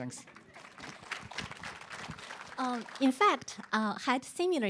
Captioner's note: applause